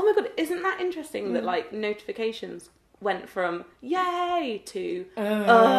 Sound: both groan

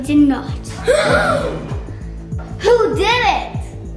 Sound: children gasping

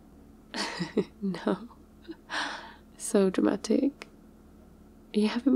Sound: laughs

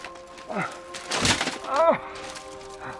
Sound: grunting; panting

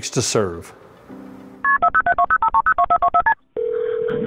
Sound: phone beeping

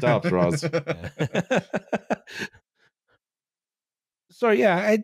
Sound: laughs

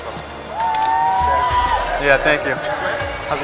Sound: crowd cheering

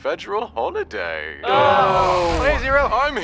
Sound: group groaning and booing

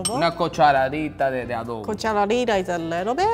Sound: speaking in foreign language

